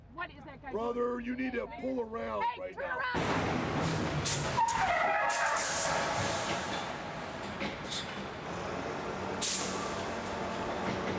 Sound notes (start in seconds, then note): 3.8 tires screeching; 6.8 engine rumbling